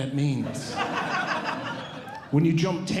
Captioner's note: audience Laughing